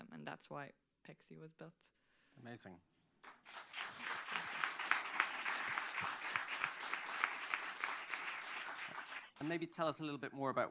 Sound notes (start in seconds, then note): 3.2 applause